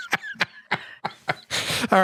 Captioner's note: laughter